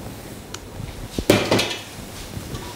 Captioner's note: pot clattering